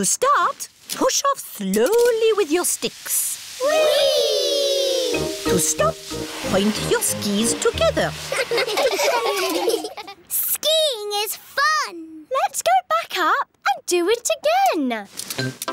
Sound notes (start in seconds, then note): 8.3 laughing